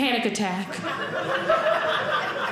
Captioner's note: audience laughing